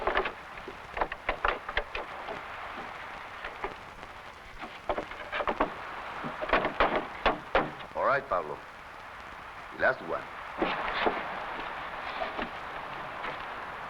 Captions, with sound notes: (handle pounding) - All right, Pablo. Last one.